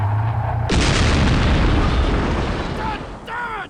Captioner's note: explosion booming